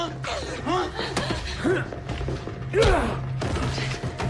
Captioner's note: grunting